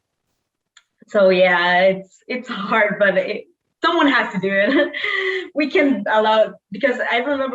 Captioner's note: chuckles